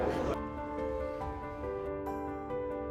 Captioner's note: laughs